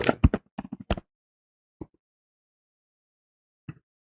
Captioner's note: keyboard typing